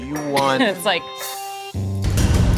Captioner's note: cough